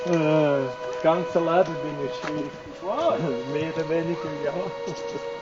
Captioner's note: both men laughing; talking in Swiss German